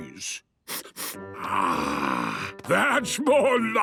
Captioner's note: sniffs